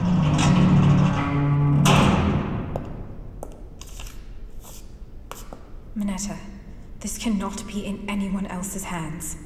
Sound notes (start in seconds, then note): 2.0 door opens